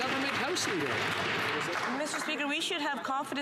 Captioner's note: some Applause